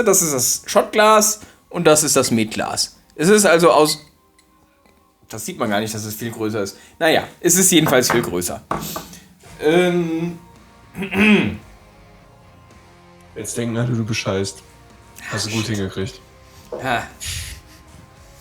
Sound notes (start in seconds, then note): 10.9 clears throat